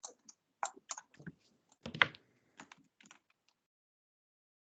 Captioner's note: fingers typing